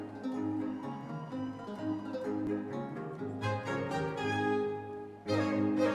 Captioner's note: audience members cheering